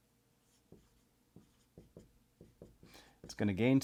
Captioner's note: pen scratching